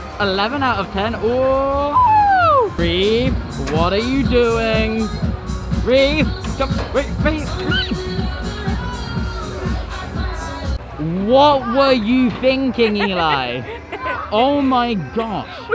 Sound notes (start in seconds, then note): 1.2 surprised shriek; 12.6 laughing